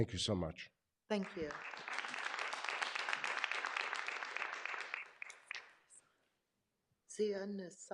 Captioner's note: clapping